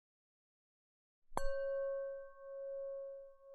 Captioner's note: meditation Bell